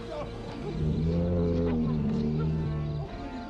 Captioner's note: bear growling